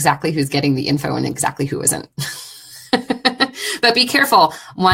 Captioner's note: laughing